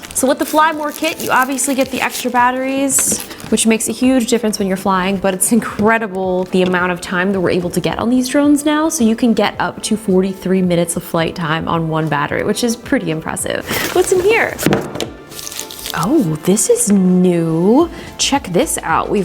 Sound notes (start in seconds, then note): 13.7 object thuds